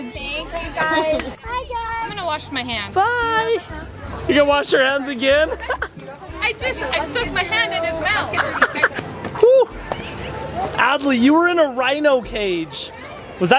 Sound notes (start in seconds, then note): 7.3 laughs